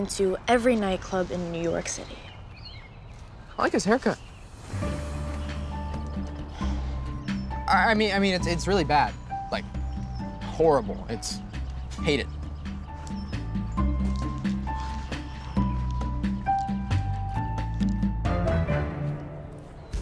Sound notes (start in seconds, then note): 5.5 sighs; 12.6 quirky music